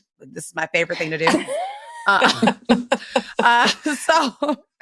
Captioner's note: chuckling